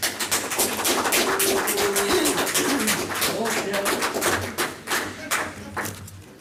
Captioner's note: applause